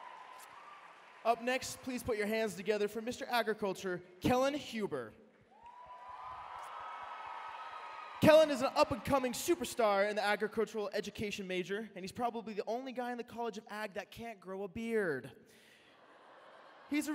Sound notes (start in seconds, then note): 5.5 cheering